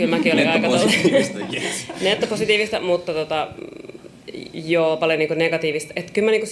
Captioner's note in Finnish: naurua